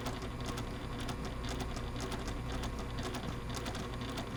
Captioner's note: sewing machine churning